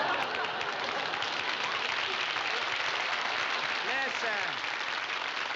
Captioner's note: audience applauding